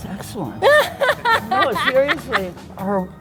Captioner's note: laughs